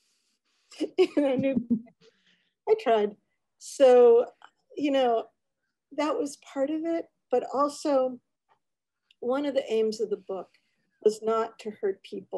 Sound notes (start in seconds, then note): 1.0 chuckles; 1.4 giggles